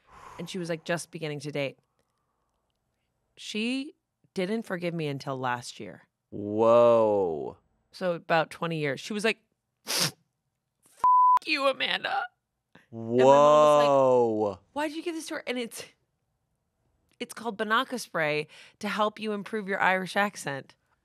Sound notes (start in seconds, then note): 9.8 sniffles; 11.0 beep